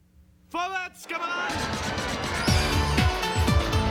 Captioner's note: speaking german